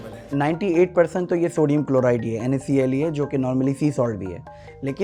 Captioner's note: speaks in foreign language